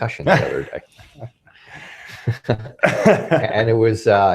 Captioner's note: laughing